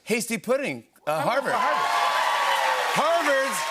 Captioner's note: cheers and applause